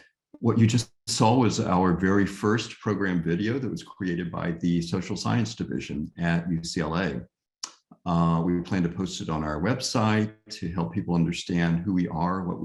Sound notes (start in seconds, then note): none